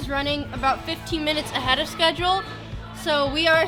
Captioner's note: people chattering